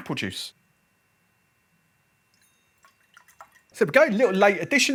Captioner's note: juice pours